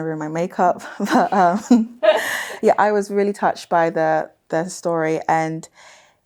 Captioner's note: chuckles